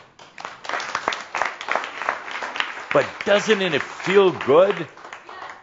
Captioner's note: some applause